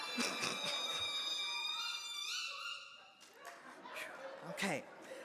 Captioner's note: high-pitched squeaking sound